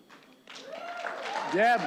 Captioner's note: applause